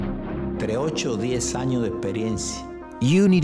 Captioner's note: spanish